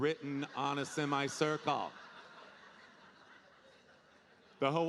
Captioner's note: audience laughing